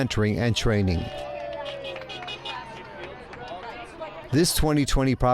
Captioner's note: crowd cheering